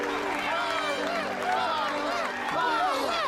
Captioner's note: all cheering